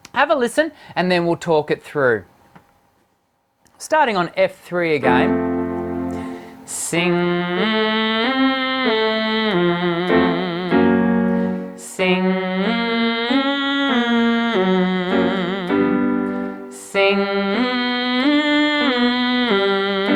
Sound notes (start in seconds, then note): 5.4 hits a single piano key; 7.5 hits several piano keys; 7.5 humming NG; 10.2 hits several higher pitched piano keys; 12.7 hits several piano keys; 12.7 humming NG; 15.1 hits several higher pitched piano keys; 17.8 hits several piano keys; 17.8 humming NG